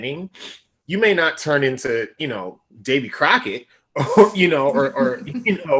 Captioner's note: laughing